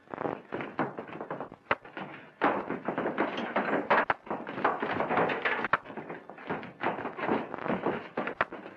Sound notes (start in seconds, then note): 1.9 punches thudding; 2.5 clattering